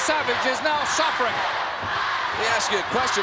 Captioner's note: crowd chanting